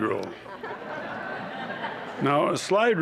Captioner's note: laughter